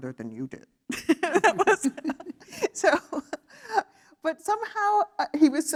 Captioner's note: laugh